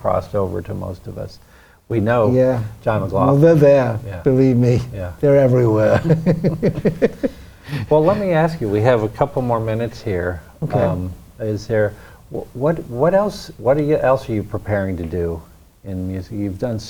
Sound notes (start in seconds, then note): 5.5 laughs